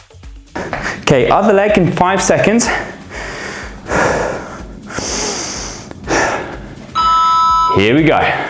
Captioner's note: sighs and gasps